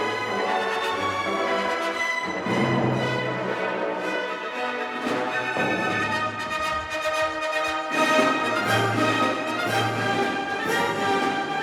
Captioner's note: cheering